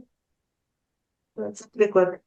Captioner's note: foreign Language